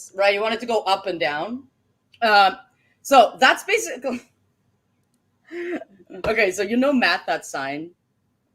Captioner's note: laughs